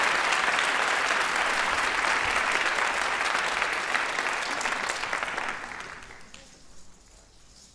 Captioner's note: applause